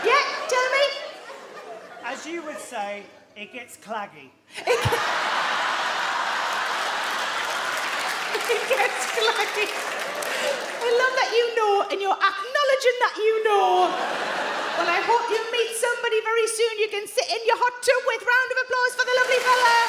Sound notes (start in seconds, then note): 4.6 audience laugh; 6.0 Sarah laughs